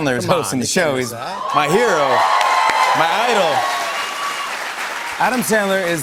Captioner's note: cheers and applause